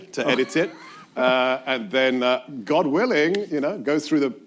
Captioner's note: laughs